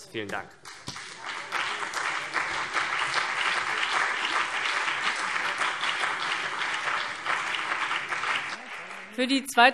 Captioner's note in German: Beifall CDU und BÜNDNIS 90/DIE GRÜNEN